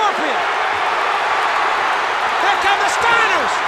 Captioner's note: crowd cheering